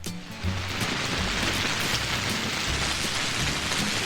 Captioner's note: rain trickling